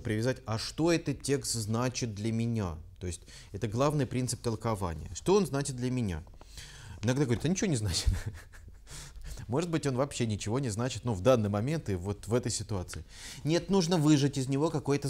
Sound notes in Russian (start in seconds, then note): 8.0 смеется